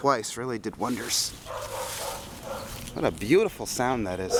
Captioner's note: dogs barking